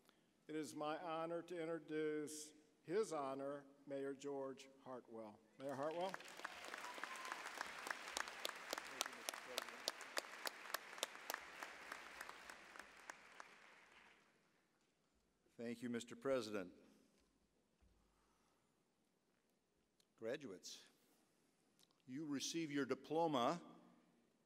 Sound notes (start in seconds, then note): 5.6 applause